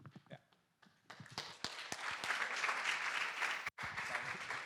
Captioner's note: applause